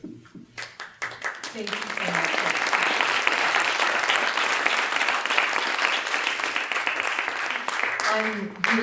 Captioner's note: applause